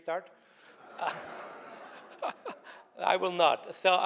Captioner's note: laughing